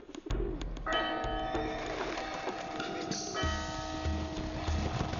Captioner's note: bells ringing